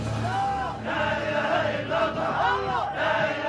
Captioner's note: chanting continues